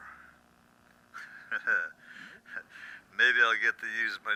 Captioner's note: laughs